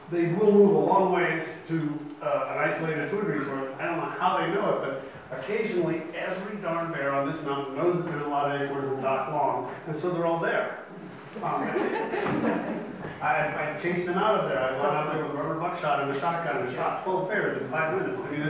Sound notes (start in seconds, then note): 11.1 audience laughs